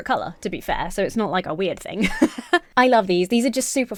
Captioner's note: laughs